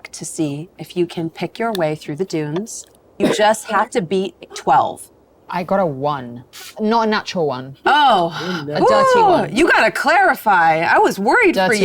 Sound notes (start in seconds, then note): 8.0 speaking faintly